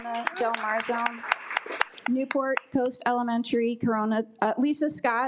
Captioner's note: attendees applaud